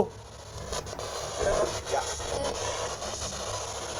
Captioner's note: static